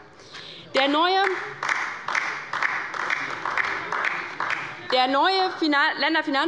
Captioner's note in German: Beifall bei der LINKEN